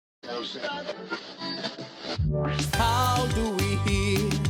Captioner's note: radio stations chattering; radio static crackling